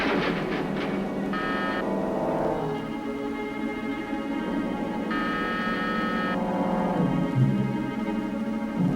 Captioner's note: door Buzzer